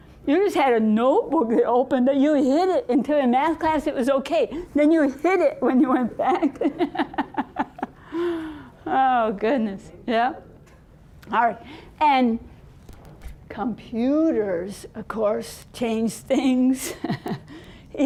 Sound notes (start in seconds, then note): 6.4 laughing